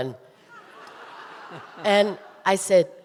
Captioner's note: audience laughing